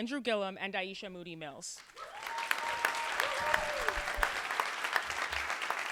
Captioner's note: applause